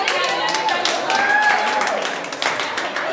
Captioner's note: audience applause